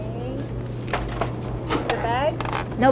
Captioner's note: cash register clinking